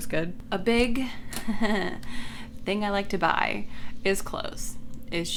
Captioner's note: chuckles